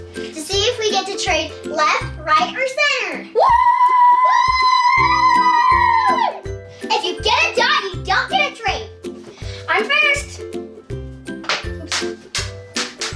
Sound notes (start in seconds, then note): 3.4 cheering; 11.4 dice clattering